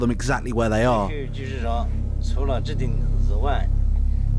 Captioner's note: Chinese spoken audio